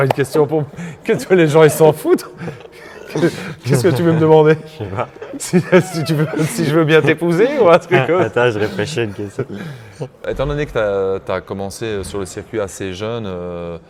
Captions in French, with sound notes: question pour que les gens ils s'en foutent ? Qu'est-ce que tu veux me demander ? Je sais pas [rires] si tu veux si je veux bien t'épouser ou un truc comme Attends, je répêch une question. Étant donné que tu as tu as commencé sur le circuit assez jeune,